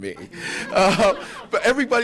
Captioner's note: laughter